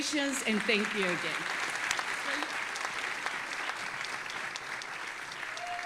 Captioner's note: audience applauding and cheering